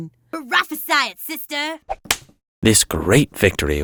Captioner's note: hands smacking